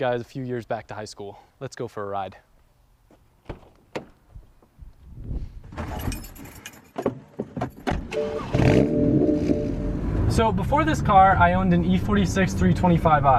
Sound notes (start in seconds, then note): 5.9 keys jingling; 8.0 engine starts